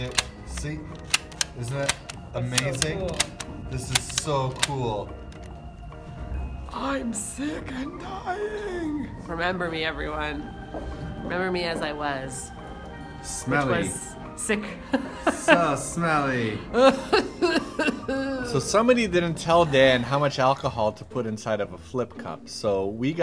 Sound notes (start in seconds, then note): 7.0 old man voice; 16.6 laughs; 17.0 sick cough